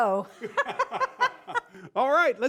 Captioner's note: laughter